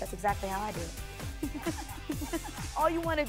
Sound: laughing

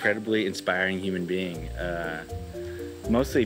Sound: loud insects buzzing

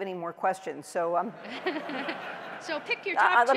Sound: laughter

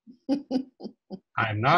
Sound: laughs

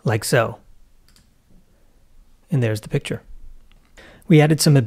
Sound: mouse clicks

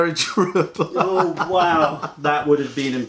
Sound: laughter

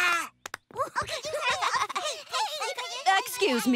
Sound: children chattering

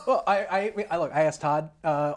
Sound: laughs

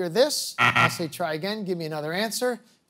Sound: beep, beep

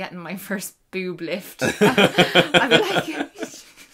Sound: both laughing

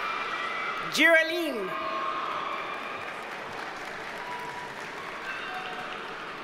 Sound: audience cheers and applauds

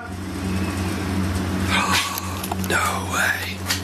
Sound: whistling

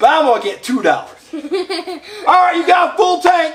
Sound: assistant giggles

